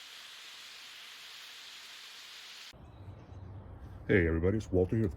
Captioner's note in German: Steaks brutzeln auf dem Grill